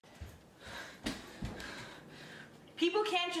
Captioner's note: deep breathing